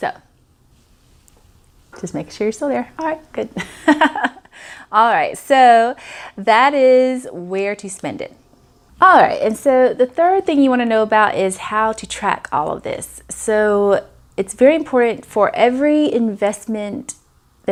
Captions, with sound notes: Just making sure you're still there. Alright, good. (laughs) Alright, so, that is where to spend it. Alright, and so, the third thing you wanna know about I show to track all of this. So, it's very important for every investment